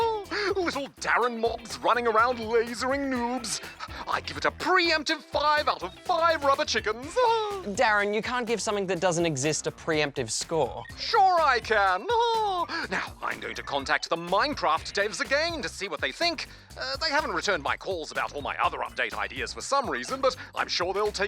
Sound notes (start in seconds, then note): 0.0 chuckles; 7.2 laughs; 12.4 chuckles